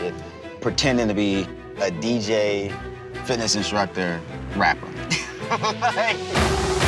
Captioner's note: laughs